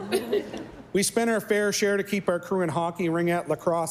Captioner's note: laughter and Applause